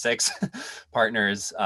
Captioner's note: laughs